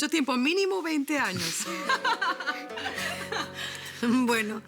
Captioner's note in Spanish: Risas